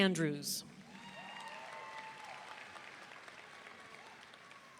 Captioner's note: audience cheering